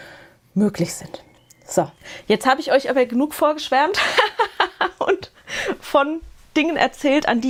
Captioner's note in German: Gelächter